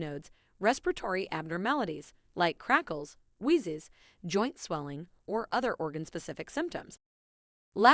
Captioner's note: like crackles, wheezes